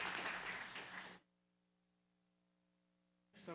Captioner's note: applause